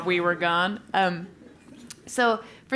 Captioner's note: laugh